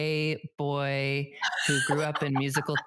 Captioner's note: laughs